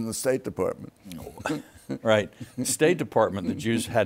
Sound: laughs

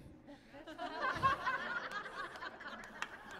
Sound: laughter

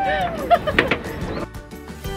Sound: chuckled

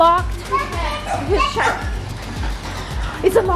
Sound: kids talking

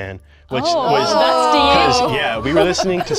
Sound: everybody exclaims

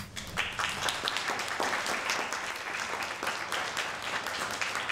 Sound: group applauding

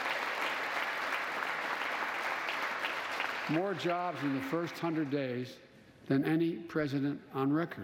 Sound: applause

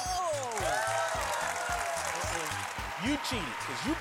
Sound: audience cheering

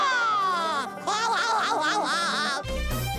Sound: laughs; disco music playing

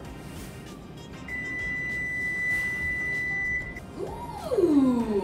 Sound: oven beeping

